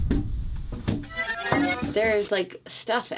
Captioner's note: rewinding sound effect